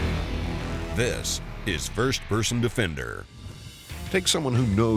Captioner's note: voiceover; voiceover